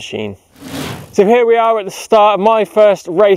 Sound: swooshing

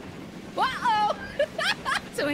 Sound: laughter

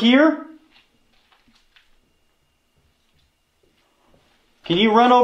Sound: footsteps getting closer

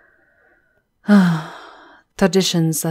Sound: her sigh is tinged with regret

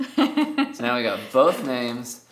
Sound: laughing

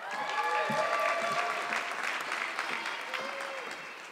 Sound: audience clapping

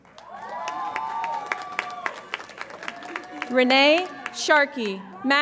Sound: audience applauds and cheers

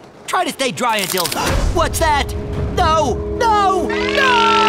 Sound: gasps

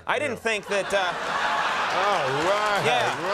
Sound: laughter

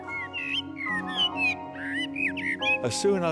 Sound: bird singing

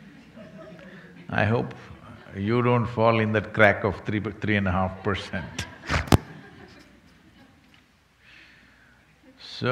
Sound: few laugh; laughter

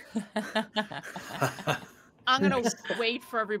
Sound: group laughing

